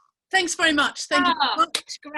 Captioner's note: laughing